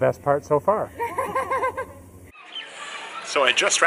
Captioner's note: laughs